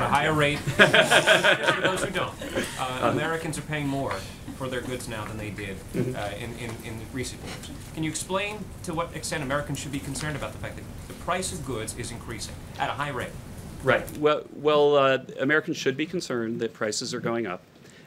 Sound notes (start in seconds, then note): 0.5 laughter